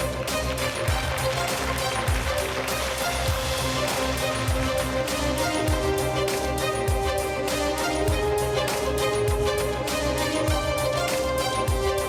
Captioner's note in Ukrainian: оплески